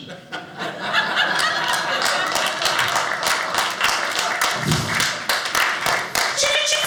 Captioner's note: audience applauding